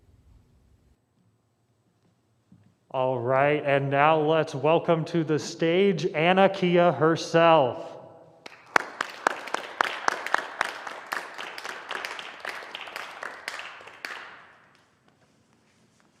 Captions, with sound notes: All right. And now let's welcome to the stage Annakeya herself. [APPLAUSE]